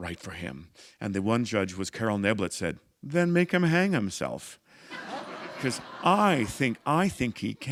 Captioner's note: laughter